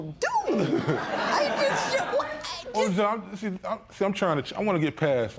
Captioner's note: laughter